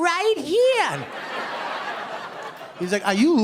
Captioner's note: laughter